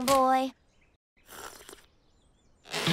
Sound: slurping

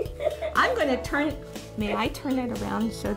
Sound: laughing

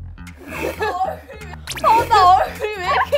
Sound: shocked

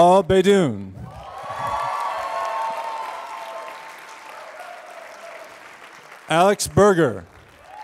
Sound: applause

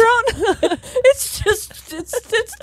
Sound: both laughing

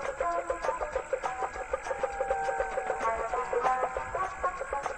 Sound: marsh insects

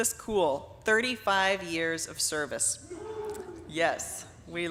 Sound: audience cheering

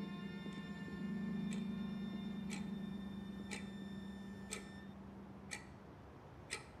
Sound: clock ticking

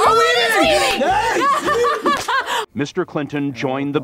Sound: laughs

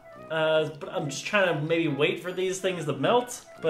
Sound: none

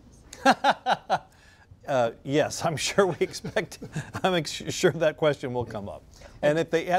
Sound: laughs

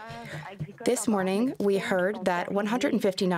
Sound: speaking French

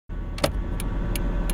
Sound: turn signal click

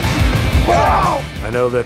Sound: both grunting

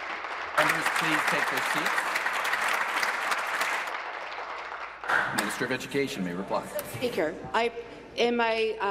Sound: applause

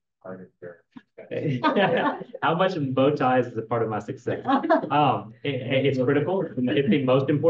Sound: laughing

